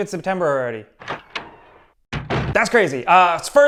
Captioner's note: door closing